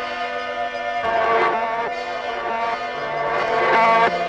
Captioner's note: buzzing